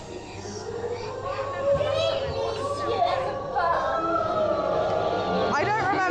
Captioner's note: evil witch talks over creepy music